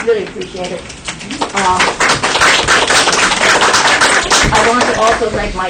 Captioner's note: applause